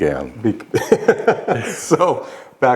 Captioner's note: laughing